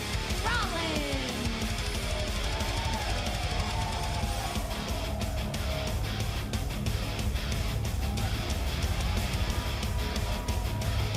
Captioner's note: crowd cheering